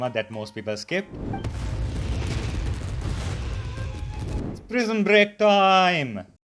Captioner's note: boom boom boom